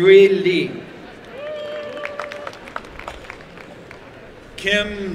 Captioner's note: applause and cheering